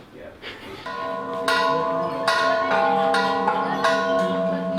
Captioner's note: bells chime